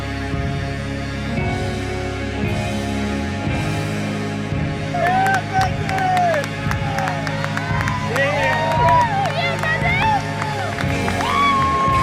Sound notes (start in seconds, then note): 4.9 clapping and cheering